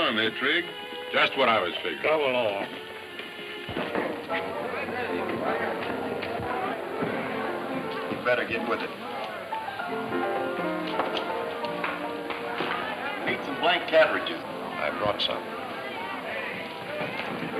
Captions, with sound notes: but I don't guess it'll do no harm, eh, Trig? - Just what I was figuring. - Come along. (bright music) (people chattering) - You better get with it. Need some blank cartridges. - I brought some.